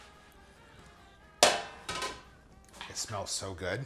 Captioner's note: clangs